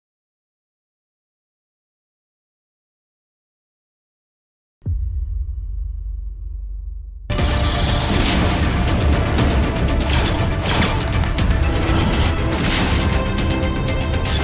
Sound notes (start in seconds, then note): 4.9 intense music; 4.9 shooting